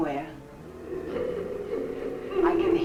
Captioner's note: faint muffled chatter nearby